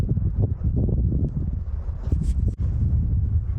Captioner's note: wind